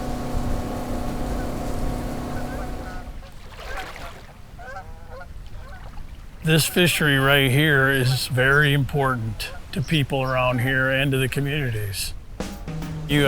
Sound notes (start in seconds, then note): 0.0 boat engine roaring; 3.7 water splashing